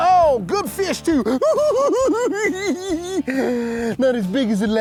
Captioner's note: giggling